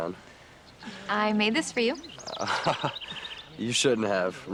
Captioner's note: sighs